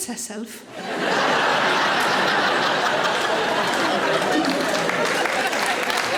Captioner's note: audience laughing; audience applauds